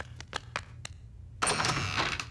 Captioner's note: door opening